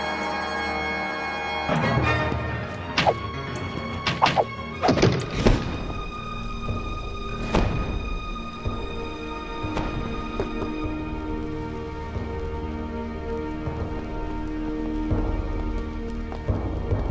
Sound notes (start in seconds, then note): 4.1 arrows being fired; 5.7 woosh; 7.4 suspensful orchestral music